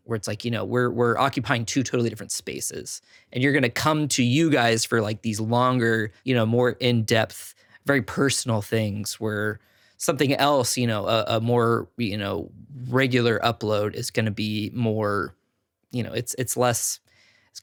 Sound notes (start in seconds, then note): none